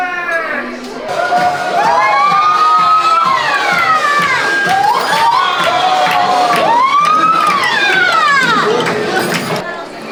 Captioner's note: general whooping and excitedness from the staff and some customers